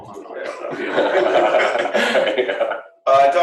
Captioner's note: laughter